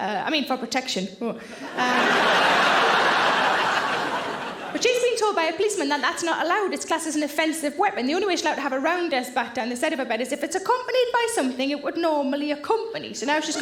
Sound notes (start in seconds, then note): 1.6 audience laughing